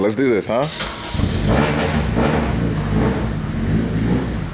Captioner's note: car engine